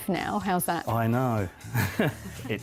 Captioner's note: laughing